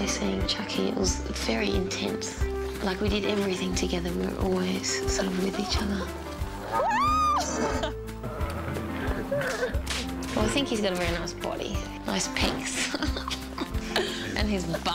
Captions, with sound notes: when I was actually seeing Chucky it was very intense. Like we did everything together, we were always sort of with each other. (cows mooing) (screaming) Well I think he has a very nice body. Nice pecks (giggles).